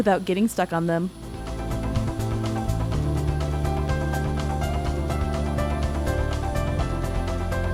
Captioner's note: upbeat music continues; digger whirring